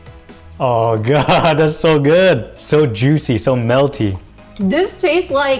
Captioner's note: upbeat music; laughs